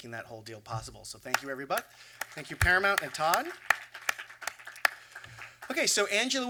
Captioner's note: applause